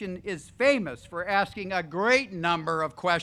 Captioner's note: none